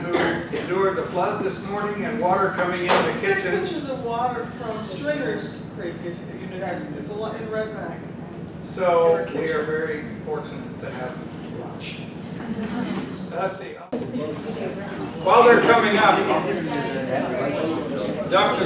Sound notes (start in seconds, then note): 12.4 all chuckle